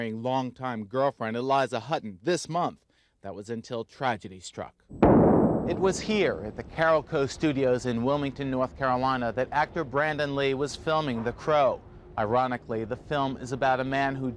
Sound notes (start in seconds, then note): 5.0 gunshot banging